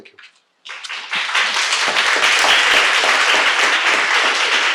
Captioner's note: audience applauding